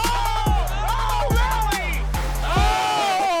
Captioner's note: cheering